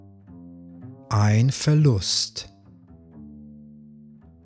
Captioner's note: german